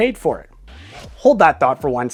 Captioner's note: air whooshing